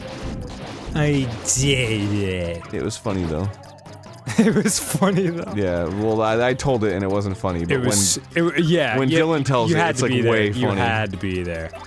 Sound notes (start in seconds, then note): 0.9 slurred; 4.2 giggling